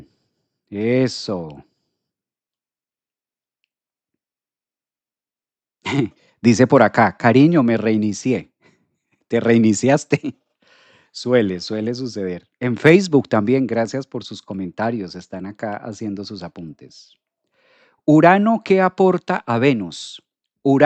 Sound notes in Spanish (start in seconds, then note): 5.9 carraspeo